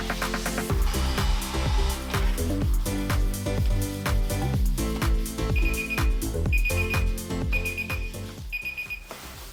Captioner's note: beeping